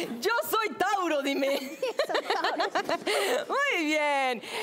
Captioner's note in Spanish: Risas